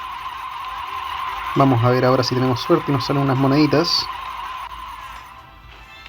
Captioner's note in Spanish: grito